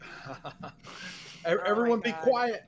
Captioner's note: chuckles